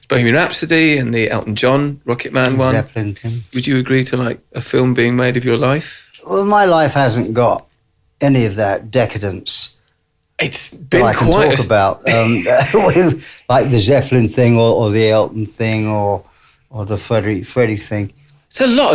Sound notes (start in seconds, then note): 12.0 laughs